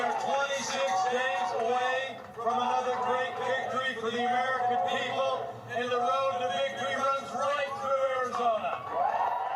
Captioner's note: cheers and applause